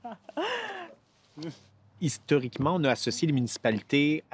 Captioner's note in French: rires